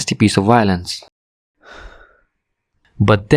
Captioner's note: sigh